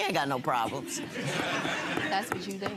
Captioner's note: audience laughing